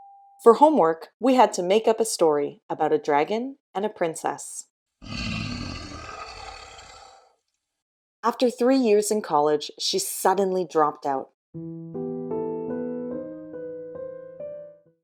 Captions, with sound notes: For homework, we had to make up a story about a dragon and a princess. [roaring] After three years in college, she suddenly dropped out. [sad music]